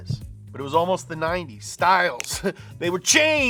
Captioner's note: chuckles